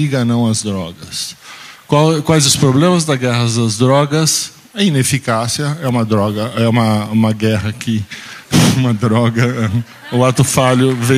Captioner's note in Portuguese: risos